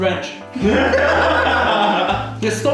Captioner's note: laughs